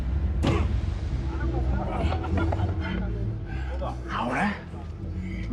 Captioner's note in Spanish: Golpes